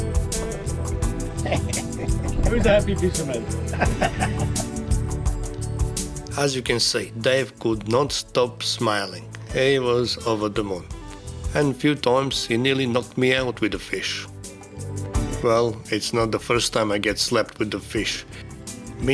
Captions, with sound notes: Who's a happy fisherman? (Laughter) As you can see, Dave could not stop smiling. He was over the moon. And a few times, he nearly knocked me out with the fish. Well, it's not the first time I get slapped with the fish.